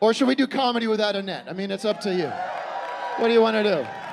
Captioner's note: scattered cheering